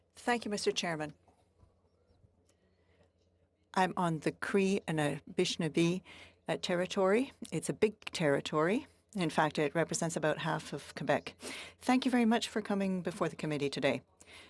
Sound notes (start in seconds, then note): 5.0 speaking FRENCH